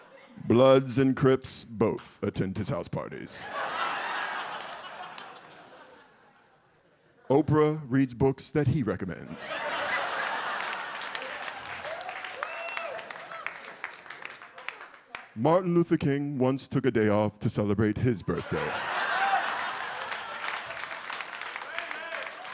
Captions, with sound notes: Bloods and Crips both attend his house parties. (audience laughs) Oprah reads books that he recommends. (audience laughs) (audience cheers) Martin Luther King once took a day off to celebrate his birthday. (audience laughs) (audience cheers)